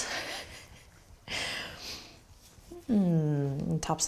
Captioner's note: laughs